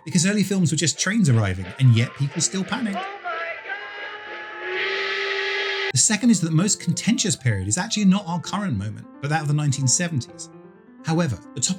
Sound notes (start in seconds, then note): 3.0 train horn